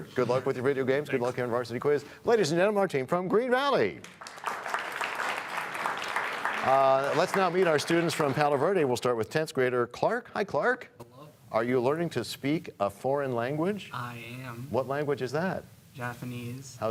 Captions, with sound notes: Good luck with your video games and on Varsity Quiz. Ladies and gentlemen, our team from Green Valley! (applause) Let's now meet our students from Palo Verde starting with 10th grader Clark. Hi, Clark. -Hello. -Are you learning to speak a foreign language? -I am. -What language is that? -Japanese.